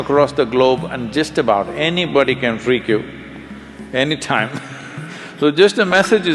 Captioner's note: laughs